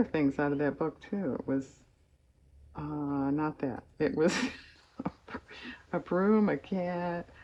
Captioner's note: laughs